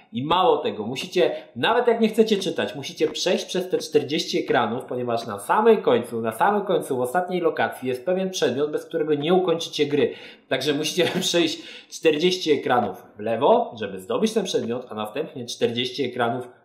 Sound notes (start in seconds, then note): 11.0 giggles